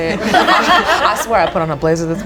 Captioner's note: group laughs